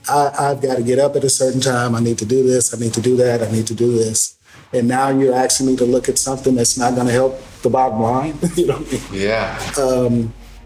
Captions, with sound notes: I gotta get up at a certain time, I need to do this, I need to do that, I need to do this. And now you're asking me to look at something that's not gonna help the bottom line? (laughing) - Yeah